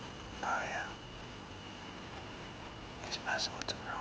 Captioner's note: whispering